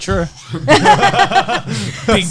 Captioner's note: all laughing